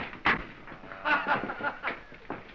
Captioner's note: laughing